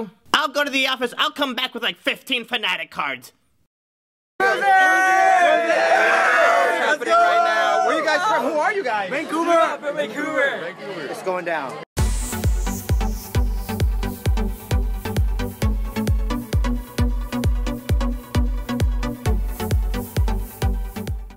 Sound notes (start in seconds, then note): 4.4 crowd cheering